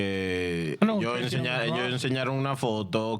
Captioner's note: speaking In Foreign Language